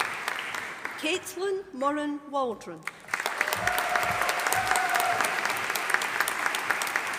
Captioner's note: audience applauding